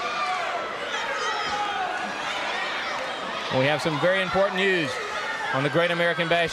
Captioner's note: crowd chatter